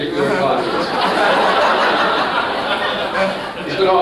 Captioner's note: laughter